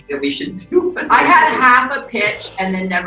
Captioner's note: laughing; bells jingling